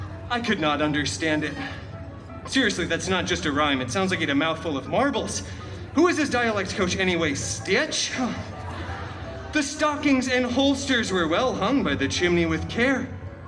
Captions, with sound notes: I could not understand it. Seriously, that’s not just a rhyme. It sounds like a mouthful of marbles. Who is this dialect coach anyway? Stitch?! [guests chuckling] The stockings and holsters were well hung by the chimney with care,